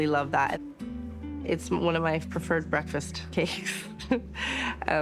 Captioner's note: chuckles